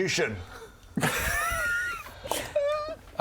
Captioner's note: laughs